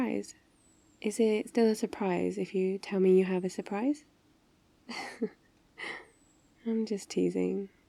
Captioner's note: laughs